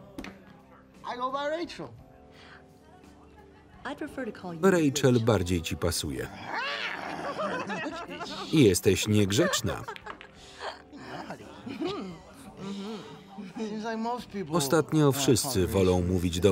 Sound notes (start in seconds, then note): 6.3 laughing; 6.4 meowing